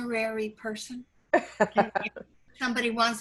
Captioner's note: laughing